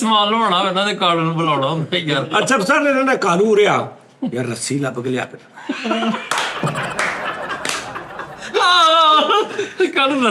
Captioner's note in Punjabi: ਤਾੜੀਆਂ